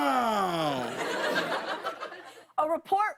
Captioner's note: laughter